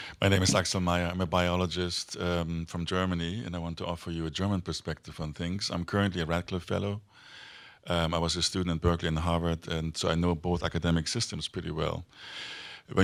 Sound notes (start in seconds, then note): none